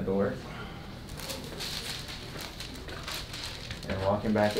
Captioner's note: patient sighing